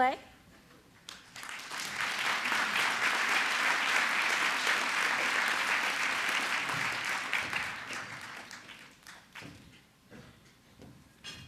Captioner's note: applause